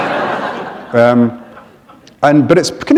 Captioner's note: laughter